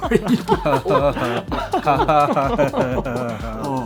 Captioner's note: laughing